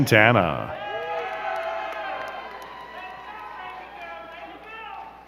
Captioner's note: crowd cheering and clapping